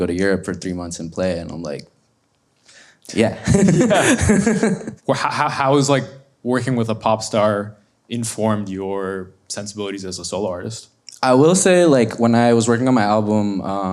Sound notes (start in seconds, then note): 3.2 laughs